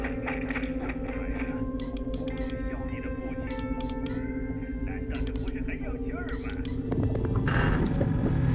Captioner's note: oil can squirting; creaking